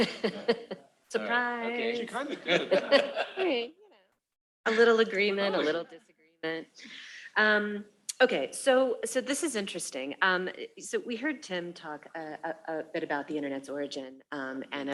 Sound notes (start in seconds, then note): 2.1 laughs; 2.1 laughter